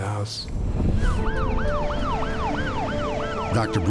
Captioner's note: sirens